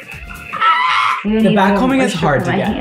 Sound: screaming

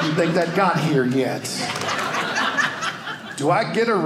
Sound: audience laughing

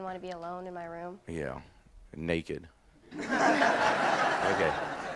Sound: audience laughing

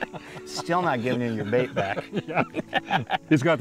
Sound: laughter

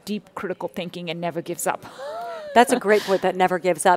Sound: laughs

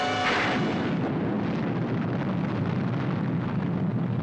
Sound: missile fires; missile explodes

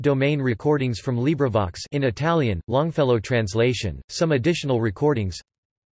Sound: in Italian, Longfellow translation

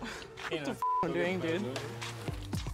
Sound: beep

